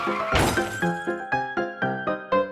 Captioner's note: crash; whimsical piano music continues